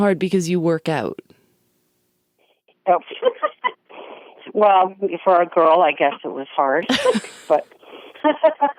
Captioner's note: laughs